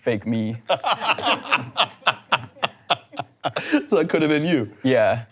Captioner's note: laughing